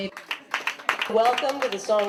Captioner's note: clapping